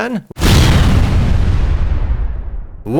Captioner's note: nuke explosion